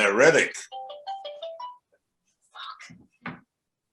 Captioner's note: phone rings